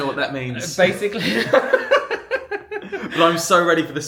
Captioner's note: laughs